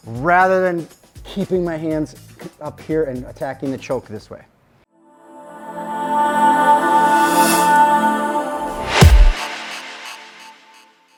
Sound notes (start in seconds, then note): 5.1 uplifting music; 9.0 air swooshing